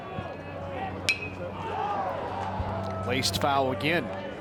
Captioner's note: crowd cheers; bat dings